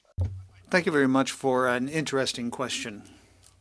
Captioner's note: speaking French